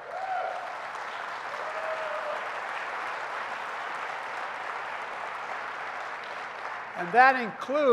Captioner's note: applause